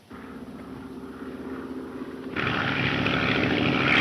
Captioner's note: engine droning